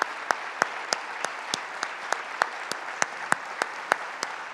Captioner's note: applause